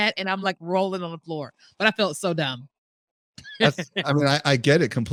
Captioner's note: laughs